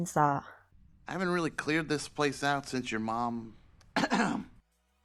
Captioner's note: coughs